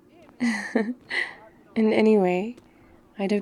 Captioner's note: laughs